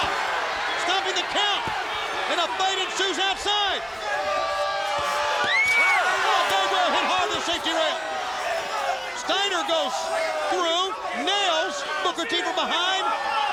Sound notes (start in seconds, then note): 0.3 crowd shouting; 4.8 Booker shouting; 6.3 shouting